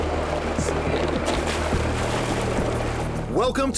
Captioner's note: water splashes